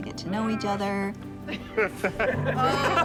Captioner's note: all laughing